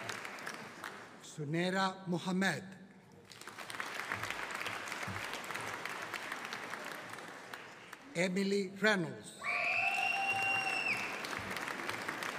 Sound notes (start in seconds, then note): 3.2 audience applauding; 9.4 audience cheering